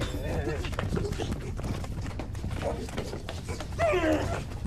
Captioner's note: pair grunting